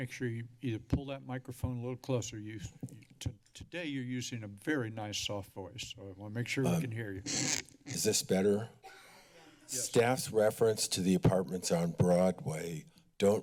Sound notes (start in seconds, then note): 7.2 microphone sounds